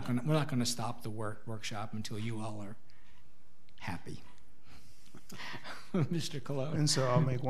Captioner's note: laughs